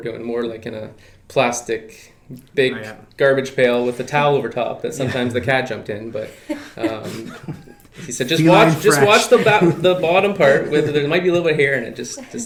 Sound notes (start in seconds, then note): 6.2 laughing